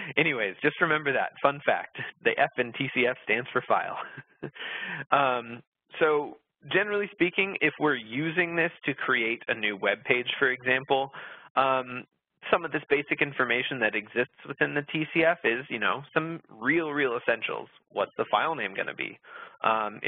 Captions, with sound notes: anyways, just remember that, fun fact. The F in TCF stands for file. (laughs) So generally speaking, if we're using this to create a new web page for example, some of this basic information that exists within the TCF is, you know, some real, real essentials. What's the file name gonna be?